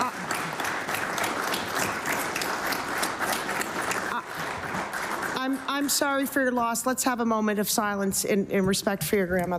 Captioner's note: applause